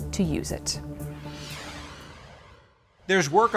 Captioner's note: graphic whooshing